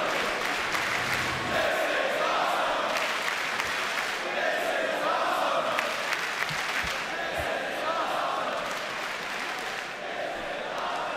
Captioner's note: fans chanting